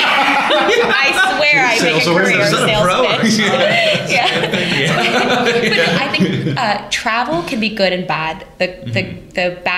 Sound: laughter

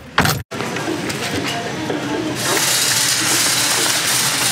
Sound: car door clicks shut; paper rustling

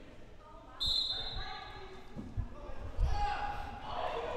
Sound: whistle blowing

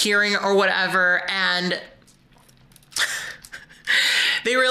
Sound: chuckles

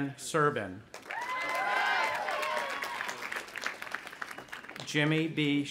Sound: audience applauding and cheering

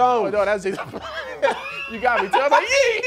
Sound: laughing

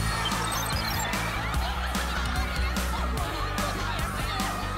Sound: yelling excitedly

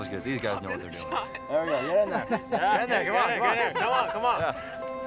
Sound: they chatter excitedly

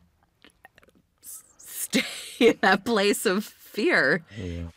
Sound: laughing

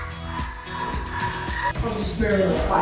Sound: barking dog

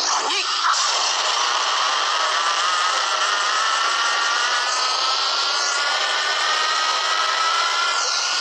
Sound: God Slayer script sound

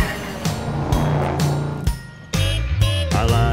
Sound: little horn honks

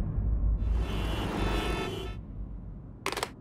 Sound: cars honking

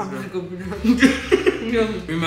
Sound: laughing

